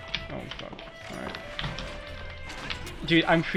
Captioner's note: loud keyboard noises